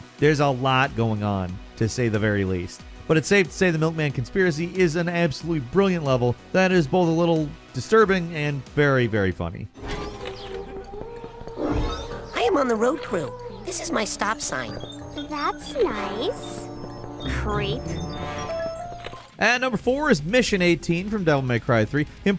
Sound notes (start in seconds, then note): 11.5 unearthly twinkling; 13.6 electronic beeping